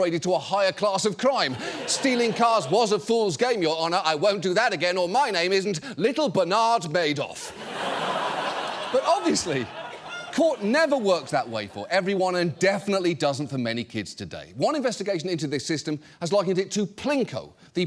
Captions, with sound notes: to a higher class of crime. "Stealing cars was a fool's game, Your Honor. I won't do that again or my name isn't Little Bernard Madoff." (AUDIENCE LAUGHS) But obviously, court never works that way for everyone and definitely doesn't for many kids today. One investigation into this system has likened it to Plinko,